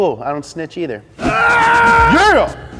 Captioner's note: screaming